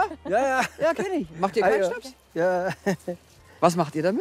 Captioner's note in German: lacht